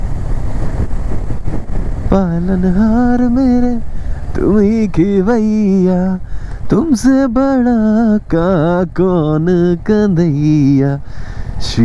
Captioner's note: humming